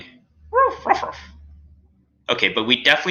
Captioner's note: Alien Space Doggy barking